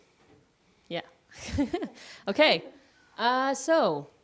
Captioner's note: laughs